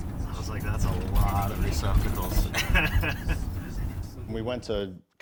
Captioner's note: laughing